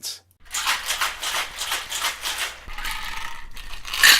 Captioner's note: ice rattling